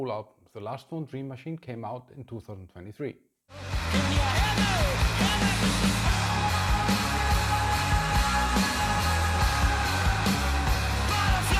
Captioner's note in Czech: Potlesk